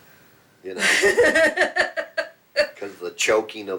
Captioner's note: laughing